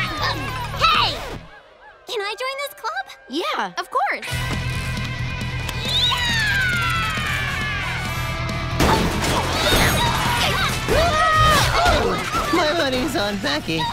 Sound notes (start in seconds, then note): 5.7 screaming